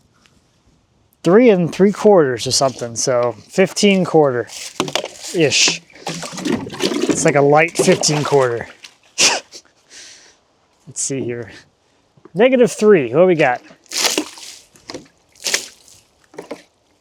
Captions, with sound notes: 3 3/4 or something, so 15/4-ish. (water splashing) It's like a light 15/4. (laughs) Let's see here. Negative three, what we got? (water splashing)